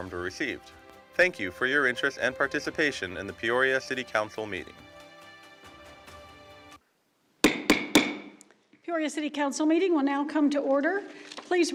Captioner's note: gavel